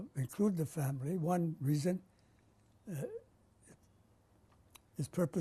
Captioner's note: pauses for 3 seconds